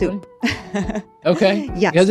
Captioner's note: laughing